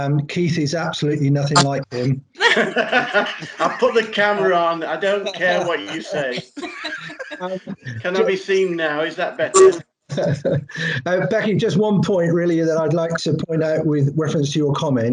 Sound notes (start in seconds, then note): 2.4 laughter